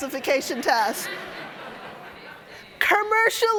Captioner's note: audience laughing